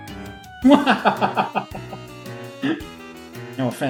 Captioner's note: laughs